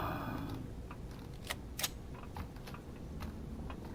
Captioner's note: sighs; reloading